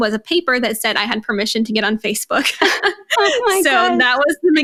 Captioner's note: laughing